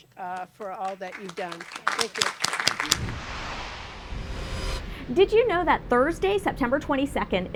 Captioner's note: applause